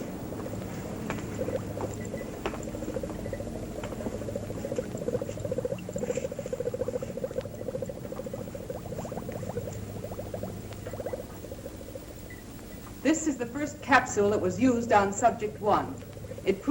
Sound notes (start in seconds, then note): 0.9 beeping; 2.0 bubbling